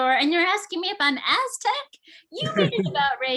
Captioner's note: laughs